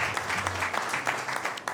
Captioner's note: applause